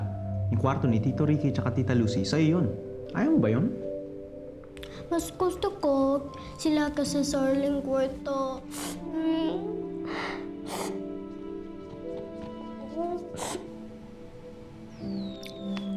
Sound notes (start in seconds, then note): 8.8 sobbing; 11.2 melancholic music